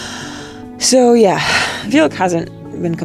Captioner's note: speaker exhales